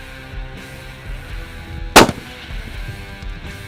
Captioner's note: gun Shot